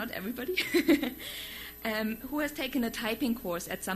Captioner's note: laughs